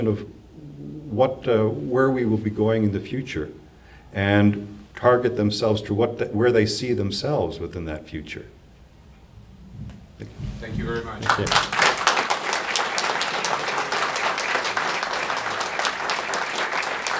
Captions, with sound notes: of what, where we will be going in the future and target themselves to where they see themselves within that future. Thank you. - Thank you very much. - Yep. (audience applauding)